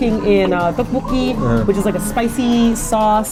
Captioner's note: drools more